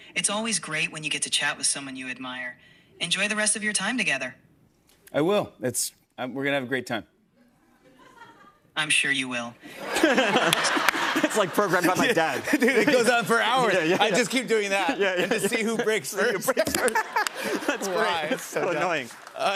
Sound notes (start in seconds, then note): 10.1 laughter; 17.5 laughter